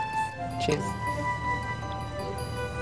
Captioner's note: in English